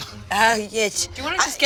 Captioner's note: Bug stuttering